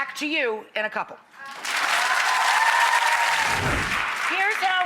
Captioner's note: audience applause